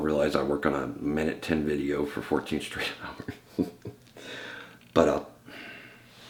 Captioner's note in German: lacht